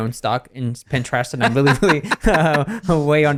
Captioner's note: both laugh